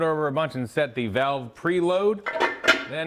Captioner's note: metal clinking